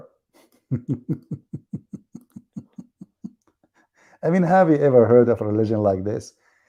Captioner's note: Ketawa